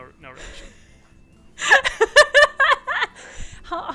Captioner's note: laughter